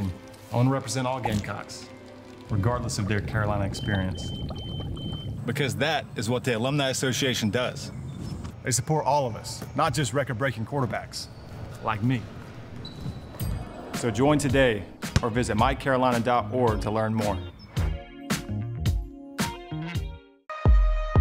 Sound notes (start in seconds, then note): 3.6 alarm beeping; 18.9 jazz music; 20.9 drum beats